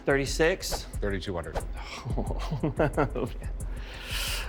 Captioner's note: chuckles